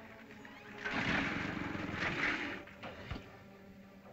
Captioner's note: dinosaur grumbles